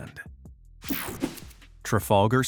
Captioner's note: image whipping effect